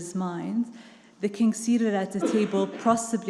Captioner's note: attendee coughing